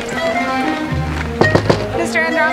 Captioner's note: whimsical music; knocking